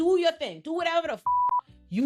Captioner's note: beep